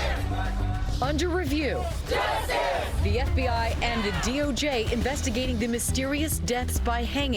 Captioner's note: crowd chanting